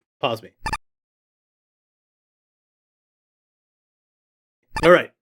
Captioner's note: computer beeps